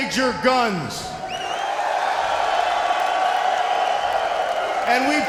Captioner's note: audience cheering